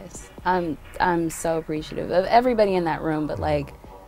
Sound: none

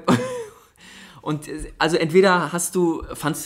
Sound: laughs

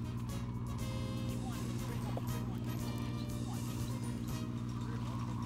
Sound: indistinct chatter

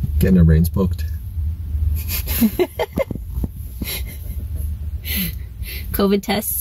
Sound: chuckles

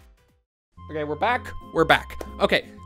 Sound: clap

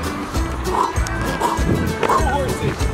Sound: dad panting

